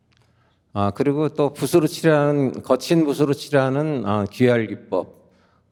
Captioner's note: continues speaking in Korean